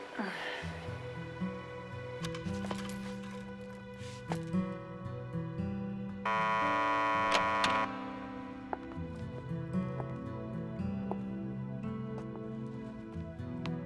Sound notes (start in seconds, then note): 0.0 somber music; 0.0 sighing; 6.2 door buzzing